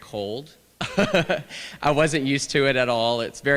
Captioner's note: laughter